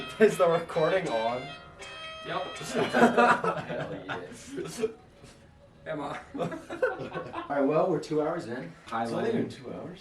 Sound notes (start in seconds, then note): 2.7 laughing; 6.2 laughing